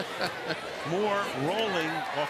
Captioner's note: laughs